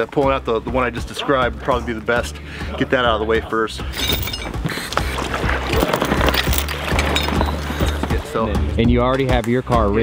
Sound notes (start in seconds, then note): 3.9 chain clangs; 5.7 water sloshes; 7.0 chain clangs